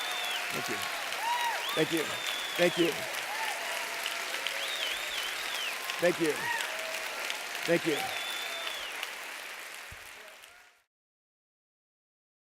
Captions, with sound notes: Thank you. Thank you. Thank you. Thank you. Thank you. [APPLAUSE]